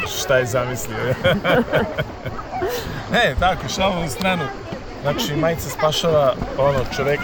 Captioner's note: laughs